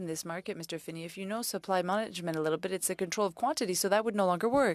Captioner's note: speaking French